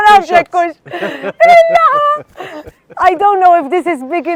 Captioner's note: chuckles